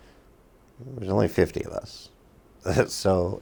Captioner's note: chuckles